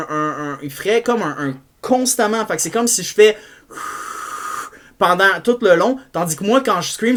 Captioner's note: exhale